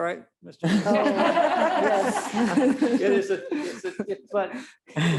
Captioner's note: board members laugh